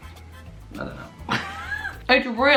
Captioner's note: laughs